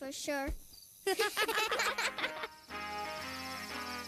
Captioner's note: giggle